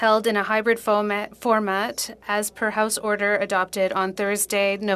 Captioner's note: speaking French